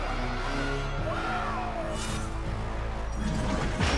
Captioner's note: screaming